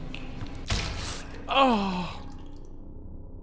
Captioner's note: Skull gasps and sighs